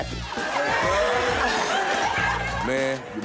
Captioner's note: cheers